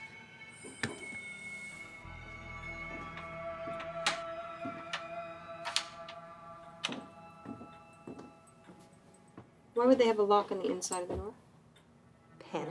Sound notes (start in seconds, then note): 5.6 lock clicking